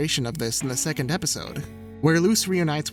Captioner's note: none